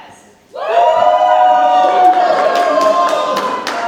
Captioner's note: audience cheers